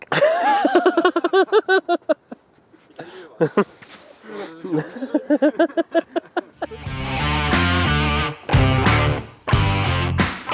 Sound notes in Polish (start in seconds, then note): 0.0 śmiech; 4.6 śmiech